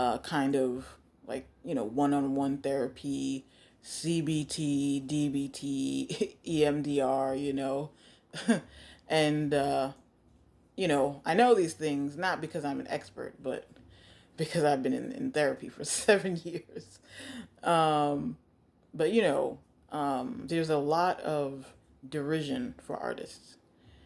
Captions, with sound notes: kind of one-on-one therapy, CBT, DBT, EMDR, you know? (laughs) And I know these things not because I'm an expert, but because I've been in therapy for seven years. (laughs) But there's a lot of derision for artists